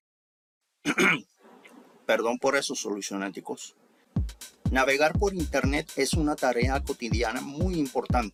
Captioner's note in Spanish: Aclarando la garganta